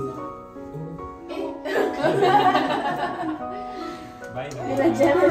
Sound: laugh

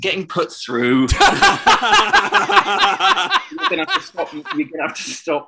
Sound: laughter

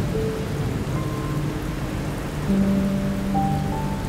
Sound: rain splattering

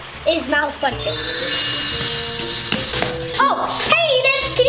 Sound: chiming

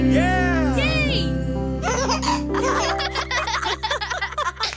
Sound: family laughing

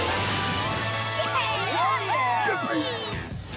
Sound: cheering

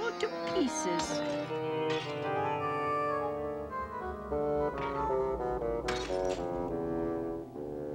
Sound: shattering sounds

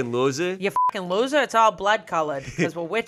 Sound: beep

